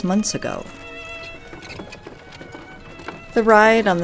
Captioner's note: sound of wagon wheels